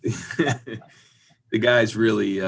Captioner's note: laughing